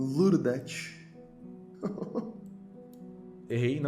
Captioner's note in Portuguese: risos